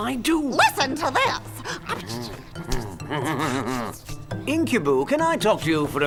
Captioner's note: whispering